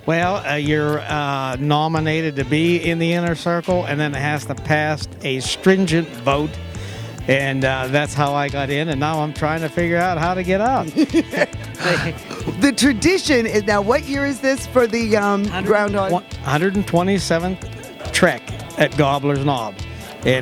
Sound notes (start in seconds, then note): 10.6 laughing